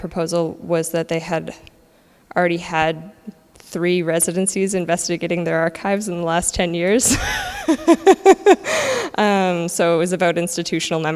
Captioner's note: laughs